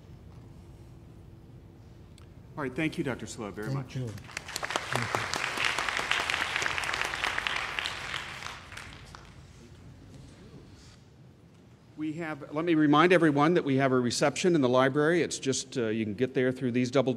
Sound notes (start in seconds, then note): 6.8 applause